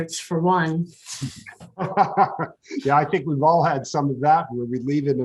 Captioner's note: laughs